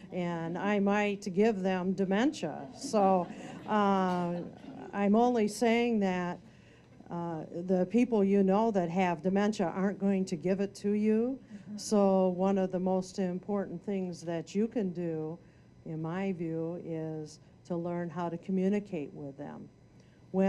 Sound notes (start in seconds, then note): 2.6 audience laughing